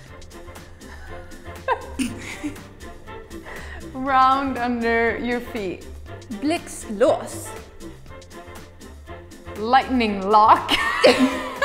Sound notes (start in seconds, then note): 0.9 both laughing; 6.7 speaking in a foreign language